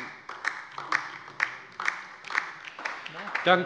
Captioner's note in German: Beifall bei der LINKEN